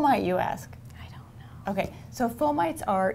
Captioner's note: whispering